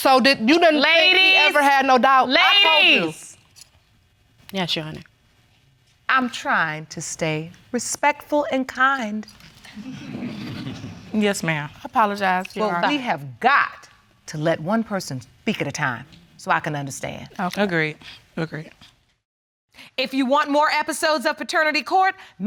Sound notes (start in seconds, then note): 10.0 audience laugh